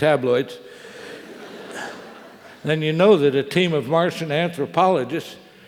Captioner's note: laugh